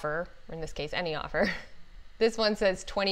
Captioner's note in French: rires